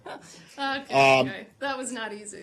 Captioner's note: laughter